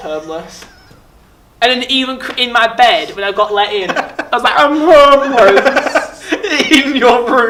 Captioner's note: laughing; laughing